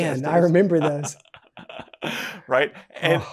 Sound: laughs

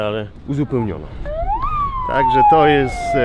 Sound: sound of sirens

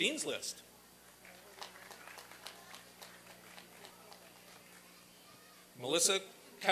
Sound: applause and cheering

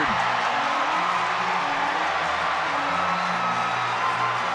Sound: cheers and applause

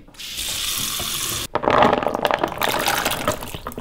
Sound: water running

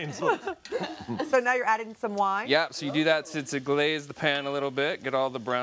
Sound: laughter

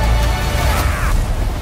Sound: mysterious man yells

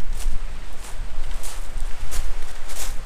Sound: sea waves sound

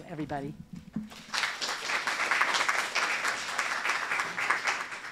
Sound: applause

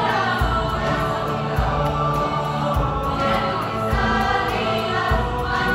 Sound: voices

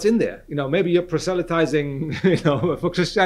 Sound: laughs

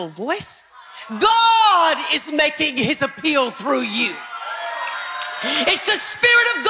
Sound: congregation chatter

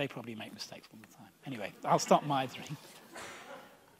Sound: audience laughs

